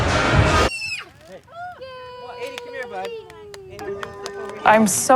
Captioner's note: children squealing